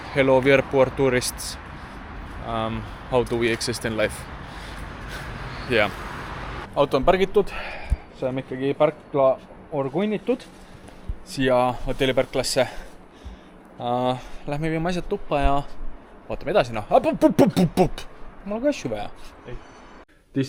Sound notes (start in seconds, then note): 17.0 angry "please stop" noises